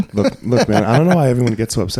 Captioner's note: laughing